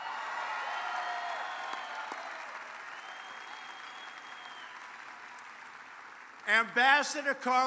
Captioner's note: applause